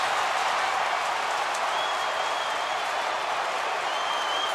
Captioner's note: crowd cheering